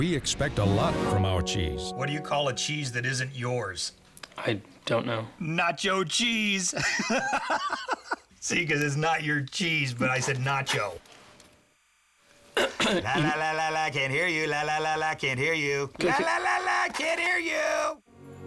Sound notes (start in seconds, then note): 10.1 laughs; 14.1 clears throat